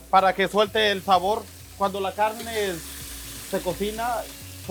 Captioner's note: speaks Spanish